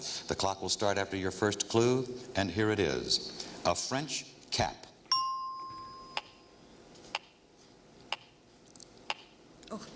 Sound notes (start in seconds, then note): 5.1 ringing bell